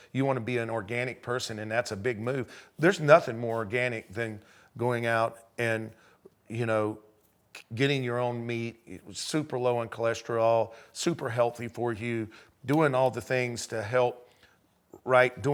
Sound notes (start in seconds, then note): none